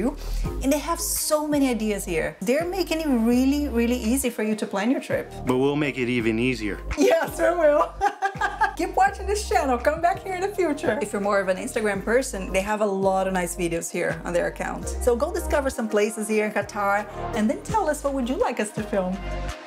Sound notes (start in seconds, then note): 7.7 laughs